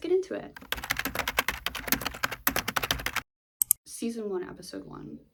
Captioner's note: typing sounds